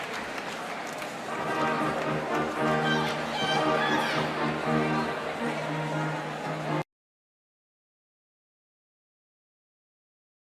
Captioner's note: cheering